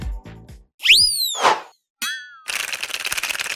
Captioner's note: air squeals; letters typing